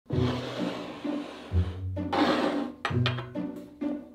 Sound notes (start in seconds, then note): 2.0 bowl sliding